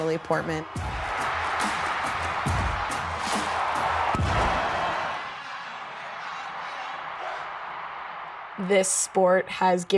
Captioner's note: cheering